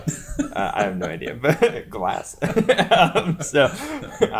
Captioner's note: laughs